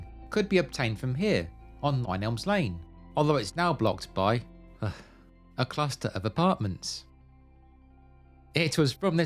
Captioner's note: sigh